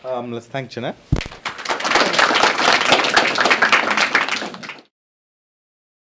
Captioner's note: applause